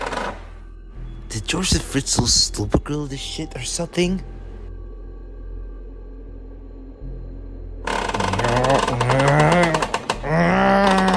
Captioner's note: french accent; struggling noises